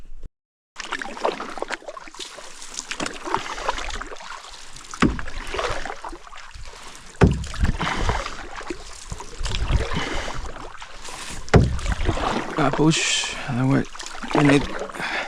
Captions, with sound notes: [water splashing] A push, and then we're in it